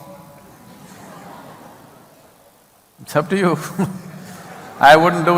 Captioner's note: laughter; laughter